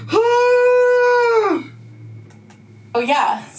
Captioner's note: yelling